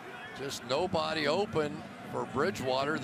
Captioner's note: pa announcement